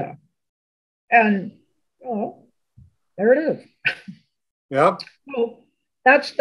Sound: chuckles

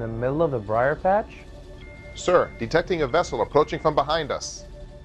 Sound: alarm sound

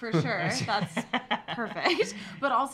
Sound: laughs

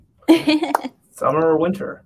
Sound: laughs

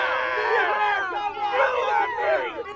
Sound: cheers

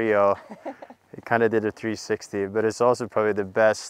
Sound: laughing

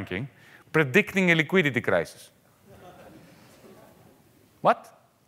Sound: audience laughing lightly

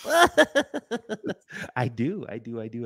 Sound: laughter

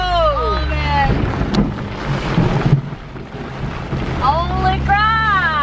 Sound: thunder crashing

